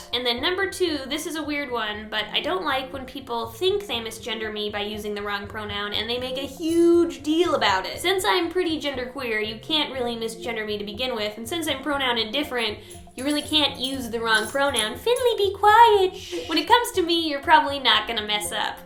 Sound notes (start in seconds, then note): 15.9 shhhhhhh